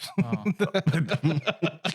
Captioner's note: laughing